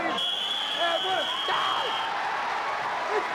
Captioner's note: whistling; spectators cheering